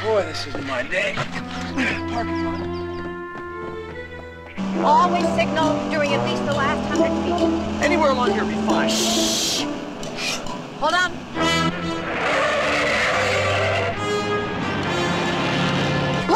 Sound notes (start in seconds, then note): 11.2 tires squealing